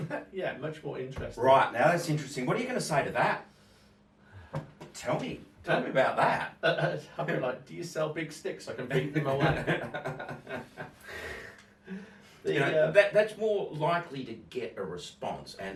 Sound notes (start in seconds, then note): 8.8 laughs